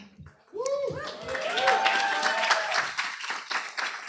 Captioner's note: applause